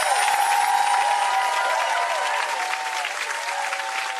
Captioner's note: wind chimes